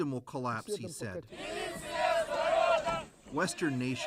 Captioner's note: speaking Foreign Language